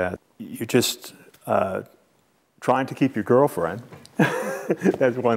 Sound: laughs

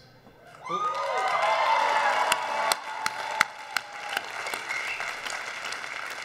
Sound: audience applauds; audience cheers

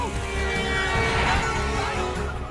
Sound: car honking

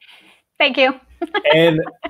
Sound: laughs

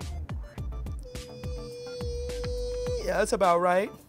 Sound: whining

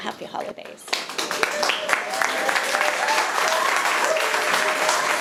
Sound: all applauding

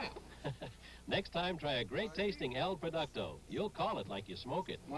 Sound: chuckling

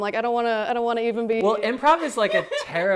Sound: laughs

